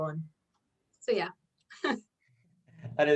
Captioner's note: chuckles